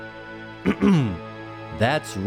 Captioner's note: clears throat